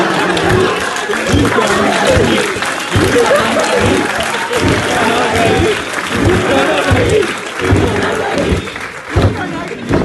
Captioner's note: crowd chanting